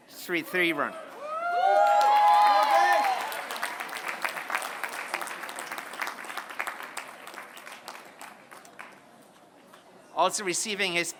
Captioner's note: applause